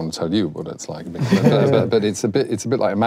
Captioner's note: laughing